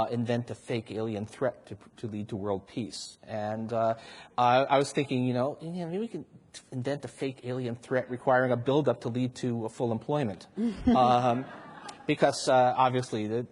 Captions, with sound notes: invent the fake alien threat to lead to world peace. I was thinking you know, maybe we can invent a fake alien threat requiring a build up to lead to a full employment. [audience laughs] Because obviously,